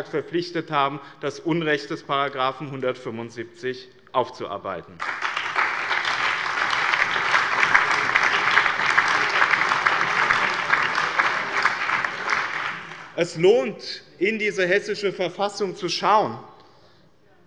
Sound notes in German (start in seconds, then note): 5.0 Allgemeiner Beifall